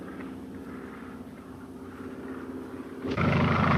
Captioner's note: airplane buzzing